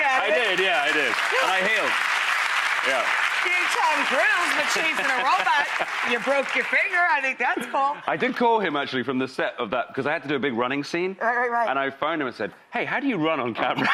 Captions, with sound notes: I did, yeah I did. And I healed. (audience applause) You can tell girls you were chasin' a robot, and you broke your finger, I think that's cool. I did call him actually from the set of that because I had to do a big running scene. Right. And I find him and said, hey how do you run on cabinet?